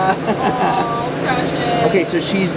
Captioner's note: laughs